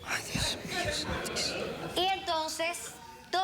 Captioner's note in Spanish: risas